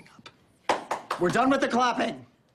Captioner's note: applause